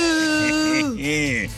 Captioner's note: laughter